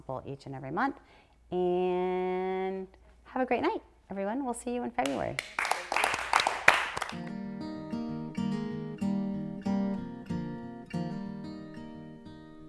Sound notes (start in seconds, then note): 5.3 people applauding; 7.2 gentle music